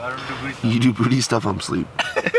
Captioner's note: laughter